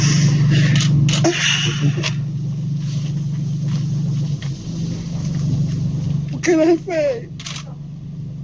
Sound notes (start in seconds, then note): 1.3 sobbing